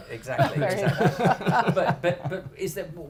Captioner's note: laughing